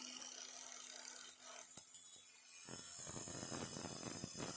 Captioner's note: grinding wheel